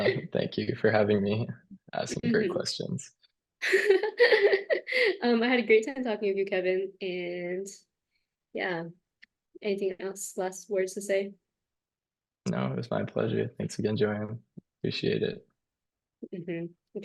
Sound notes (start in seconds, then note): 3.7 laughs